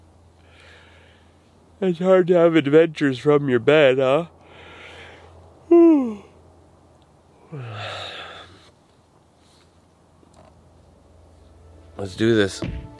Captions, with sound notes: it's hard to have adventures from your bed, huh? (deep yawning) Let's do this.